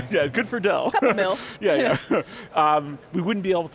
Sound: chuckles

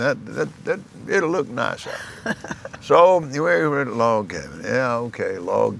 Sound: laughs

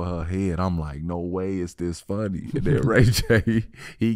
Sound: laughing

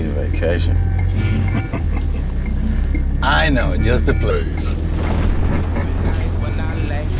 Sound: laughs

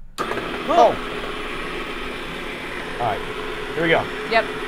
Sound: ice cream maker whirring

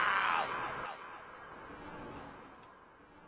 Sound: echoes

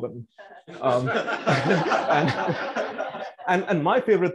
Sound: laughter

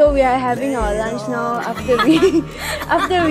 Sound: laughs

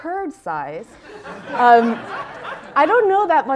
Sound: laughter

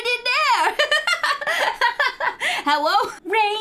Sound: laughing

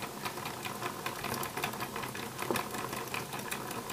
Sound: gentle rotational noise

